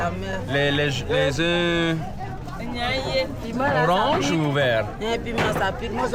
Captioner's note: people speaking foreign language